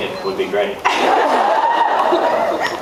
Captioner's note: laughs, cheers; cheers, applauds